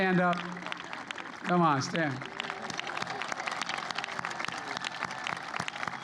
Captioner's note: applause